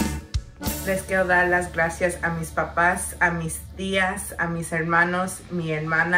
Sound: speaks in foreign language

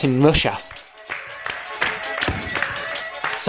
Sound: hand claps and stomping sounds

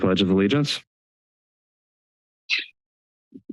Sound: silence

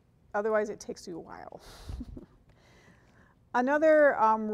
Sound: chuckling

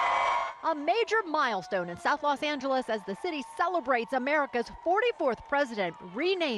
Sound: cheering

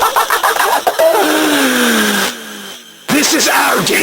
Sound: laughter; inhale

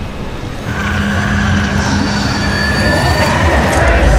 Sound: growling

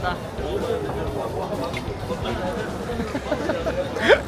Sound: sigh

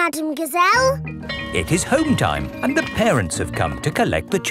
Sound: bell tolling

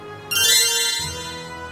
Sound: dramatic music; magical tinkling

